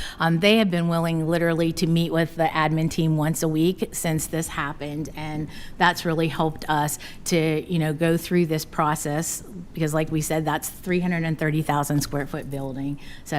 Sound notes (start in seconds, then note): none